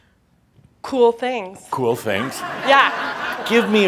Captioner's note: laughter